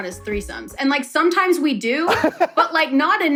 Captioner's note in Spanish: risas